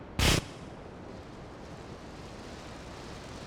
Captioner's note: gun firing